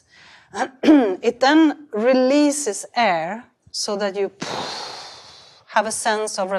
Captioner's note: exhales